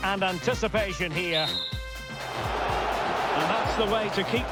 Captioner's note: whistle blows, crowd roars